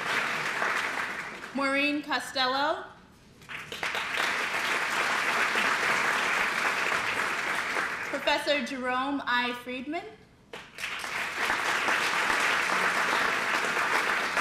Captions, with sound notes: Maureen Costello, [APPLAUSE] Professor Jerome I. Friedman, [APPLAUSE]